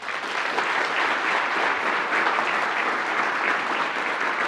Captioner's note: attendees applauding